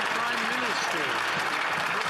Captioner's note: some Applause